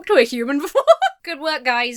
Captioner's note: laughs